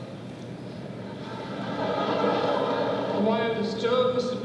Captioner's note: laughter